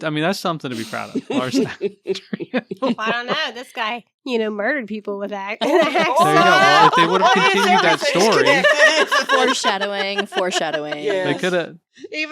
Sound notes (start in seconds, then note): 5.6 laughing